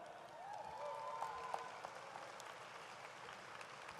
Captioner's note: audience applauds